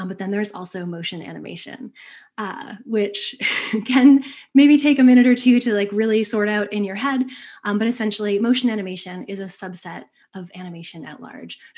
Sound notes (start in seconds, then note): 3.0 giggles